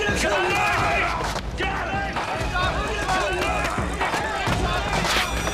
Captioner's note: yelling; yelling and struggling